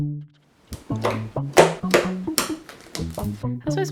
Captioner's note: slime sound